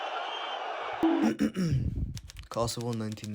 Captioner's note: cough